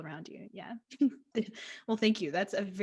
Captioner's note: laughs